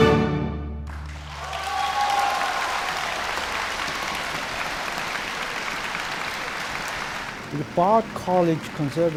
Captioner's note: applause